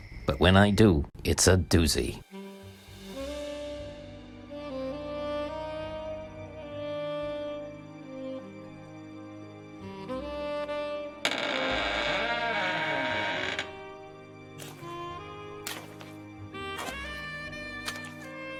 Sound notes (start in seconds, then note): 2.2 saxophone playing; 11.2 door creaking; 14.8 footsteps shuffling